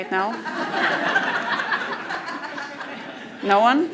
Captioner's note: crowd laughs